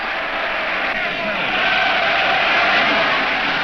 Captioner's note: crowd cheers